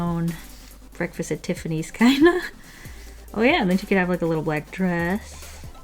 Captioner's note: laughs